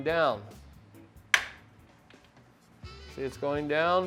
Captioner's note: metal clacking